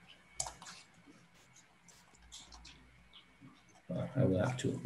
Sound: mouse clicking

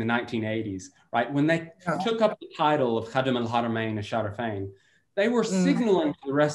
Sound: in foreign language

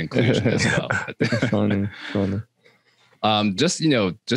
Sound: all chuckling

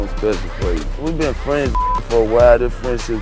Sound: beep

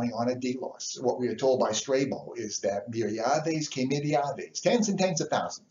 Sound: speaks foreign

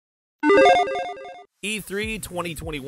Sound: logo beeps

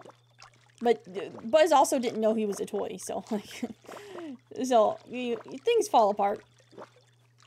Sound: laughs

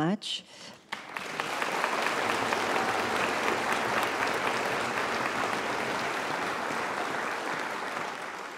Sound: applause

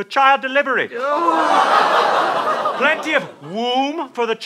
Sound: audience oh's

